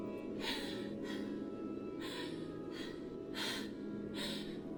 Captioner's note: Connie gasps